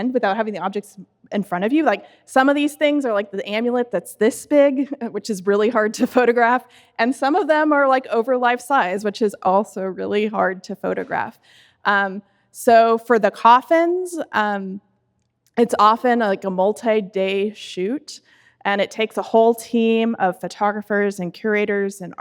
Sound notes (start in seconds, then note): 5.9 laughs